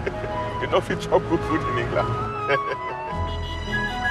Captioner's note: chuckles; chuckling; light orchestral music